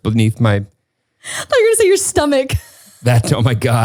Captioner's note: laughs